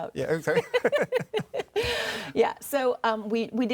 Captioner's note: laughs